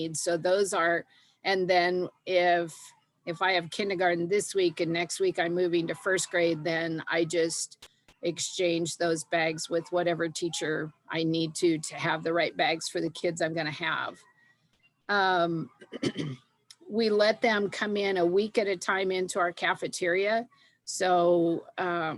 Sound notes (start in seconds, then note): 15.8 clears throat